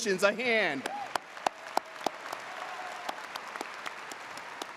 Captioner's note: audience applauds